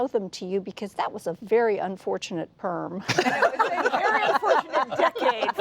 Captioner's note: laughter